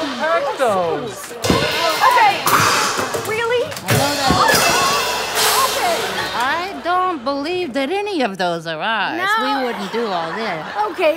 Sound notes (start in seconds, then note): 3.8 crash